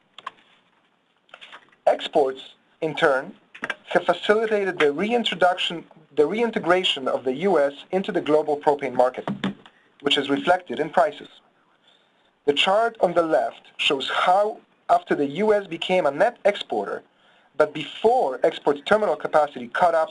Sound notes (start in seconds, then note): 0.1 pages turning; 0.1 mouse clicking; 3.1 loud click; 9.2 loud thump